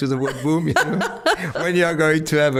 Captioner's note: laughing